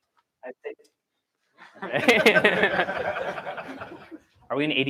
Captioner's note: laughter